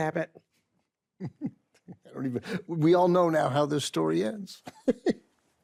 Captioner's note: laughs